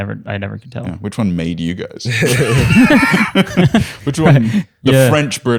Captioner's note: laughter